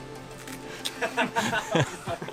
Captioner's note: laughing